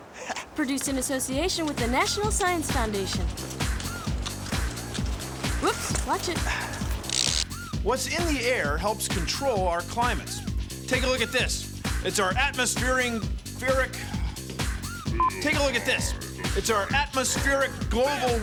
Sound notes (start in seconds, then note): 14.8 sighs